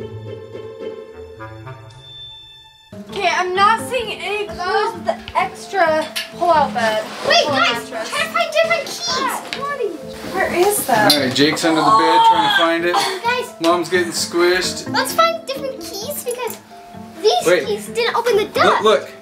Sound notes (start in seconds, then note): 11.7 groans